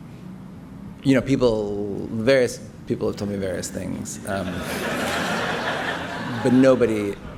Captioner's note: laughter